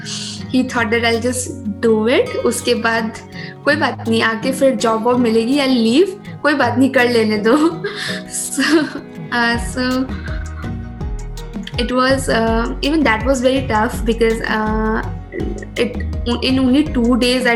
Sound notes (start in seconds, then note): 10.2 laughs